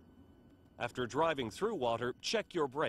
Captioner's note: voiceover